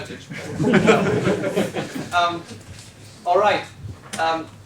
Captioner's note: laughter